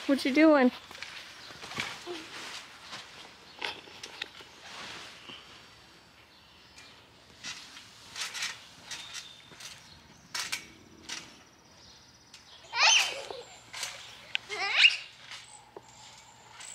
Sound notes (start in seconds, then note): 6.8 trampoline creaking; 12.7 shrieking excitedly